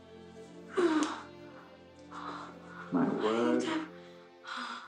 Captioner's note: Cathy moaning